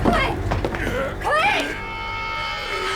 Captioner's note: grunting